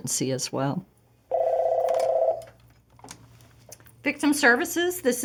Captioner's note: phone ringing